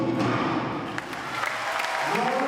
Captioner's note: crowd cheering